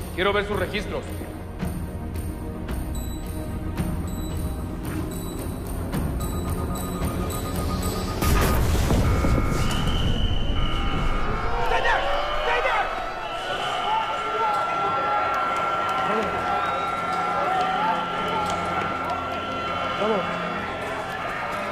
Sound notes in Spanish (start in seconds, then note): 3.0 Pitidos; 8.2 Estruendo; 8.4 Alarma